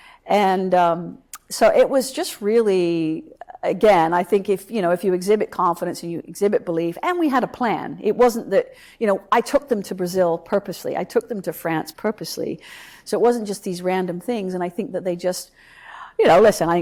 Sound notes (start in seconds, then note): none